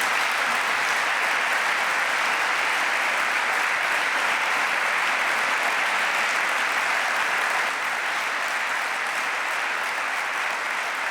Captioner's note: applause